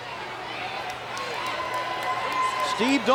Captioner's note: audience cheers